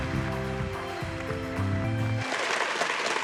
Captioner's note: audience applauding